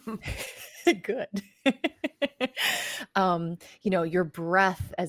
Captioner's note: laughs